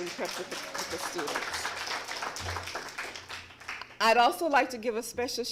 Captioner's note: applause